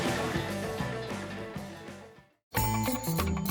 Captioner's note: laughs